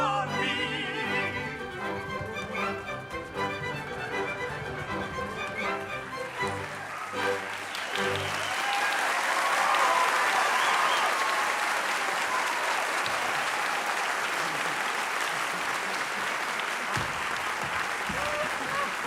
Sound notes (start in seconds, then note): 7.0 applause